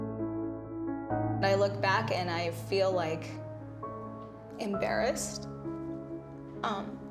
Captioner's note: voice breaking